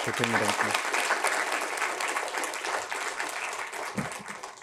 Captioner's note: applause